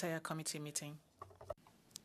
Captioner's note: speaking French